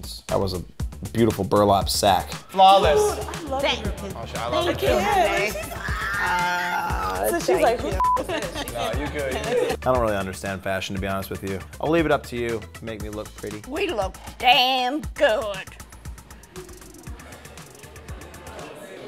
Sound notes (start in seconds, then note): 5.7 squealing; 8.0 beep